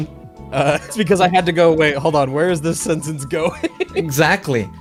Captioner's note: laughs